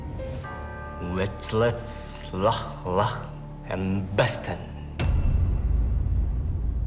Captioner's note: in German